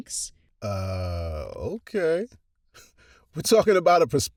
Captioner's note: chuckles